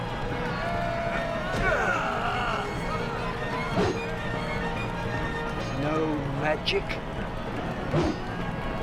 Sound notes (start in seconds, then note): 4.9 woosh